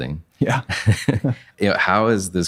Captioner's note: laughing